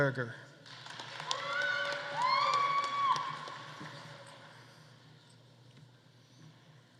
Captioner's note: audience applauding; audience cheering